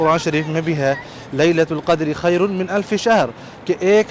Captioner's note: Arabic